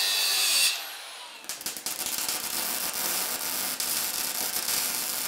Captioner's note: welder sputtering